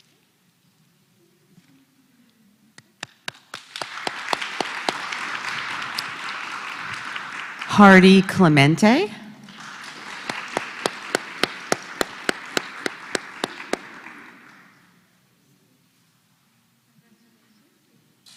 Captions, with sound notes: [APPLAUSE] >> Harry Clemente. >> [APPLAUSE]